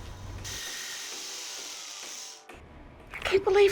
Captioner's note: power tools whirling